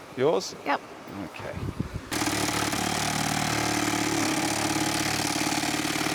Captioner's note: drill whirring